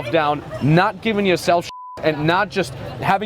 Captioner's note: beep